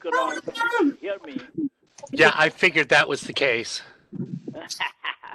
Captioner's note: laughter